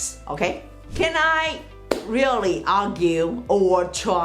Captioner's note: hands clap